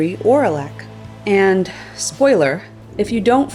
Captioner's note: sigh